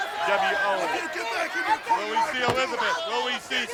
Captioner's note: coached yelling collectively